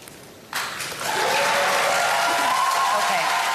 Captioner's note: cheers and applause